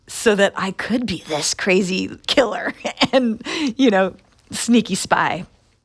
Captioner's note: laughter